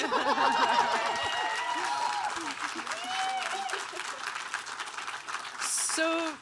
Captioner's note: all laughing; audience cheering and applauding